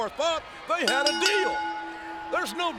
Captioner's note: bell rings